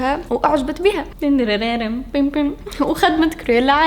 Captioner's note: hums pun tune